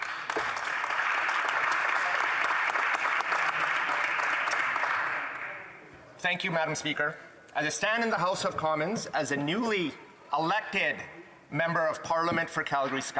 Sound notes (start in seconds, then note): 3.3 some Applause